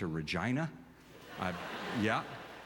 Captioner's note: audience laughter